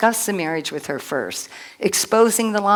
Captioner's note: none